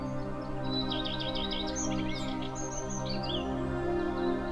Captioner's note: birds chirping